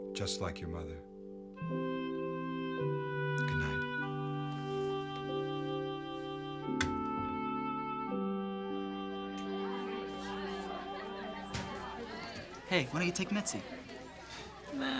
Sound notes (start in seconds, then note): 1.9 soft music; 9.4 students talking loudly